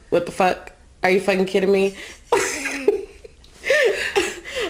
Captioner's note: laughs